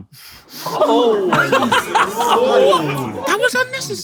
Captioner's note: people in room make shocked noises